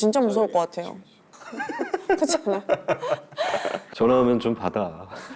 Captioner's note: chuckles